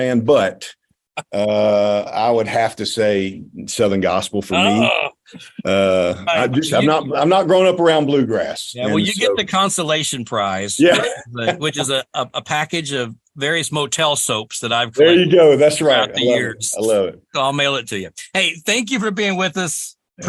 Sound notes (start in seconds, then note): 10.8 laughs